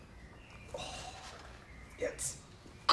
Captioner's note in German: Seufzen; angestrengt